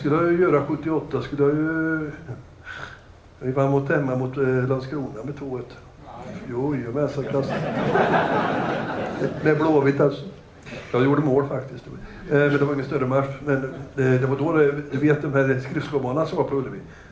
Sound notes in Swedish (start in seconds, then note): 7.2 Skratt